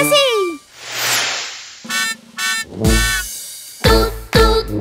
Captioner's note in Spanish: Sonido de bocina